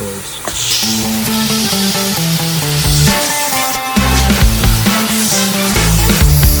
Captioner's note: lively music; vacuum whooshing